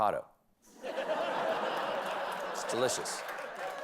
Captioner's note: laughter